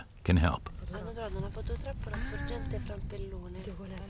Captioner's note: converse in Italian